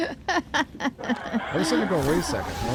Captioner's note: laughs